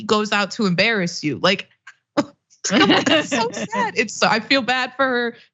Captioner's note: laugh